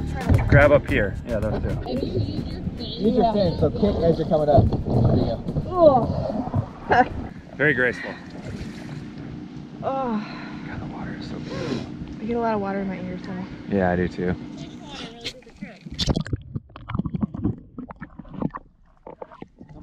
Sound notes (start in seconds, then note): 6.1 grunts; 15.1 water splotches